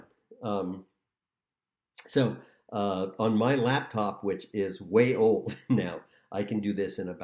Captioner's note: laughter